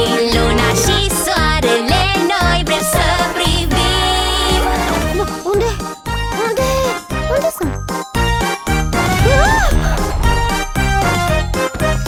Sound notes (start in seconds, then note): 9.2 wails